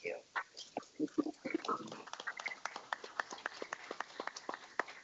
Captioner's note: everyone applauding